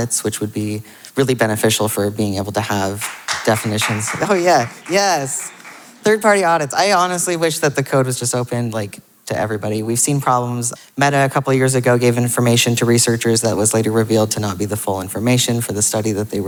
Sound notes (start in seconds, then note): 2.7 audience member applauding